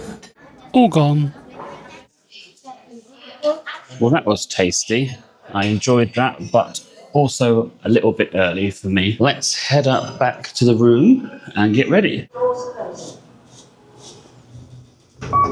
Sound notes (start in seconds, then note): 13.7 doors Closing